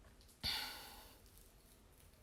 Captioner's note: sigh